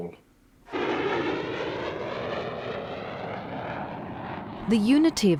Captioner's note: supersonic jet noise